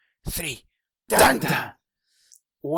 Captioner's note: Butchered Law & Order sound effect